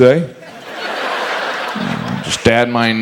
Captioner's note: audience laughs